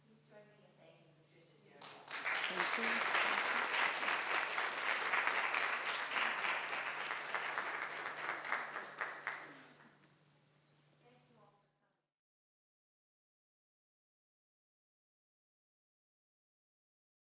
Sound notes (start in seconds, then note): 1.8 audience applauds; 4.9 audience continues applauding; 8.0 applauds diminish